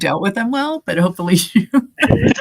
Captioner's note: laughter drains dialogue